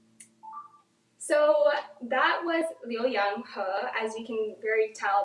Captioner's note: speaks in foreign language